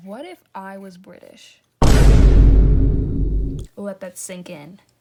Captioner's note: dramatic sound effect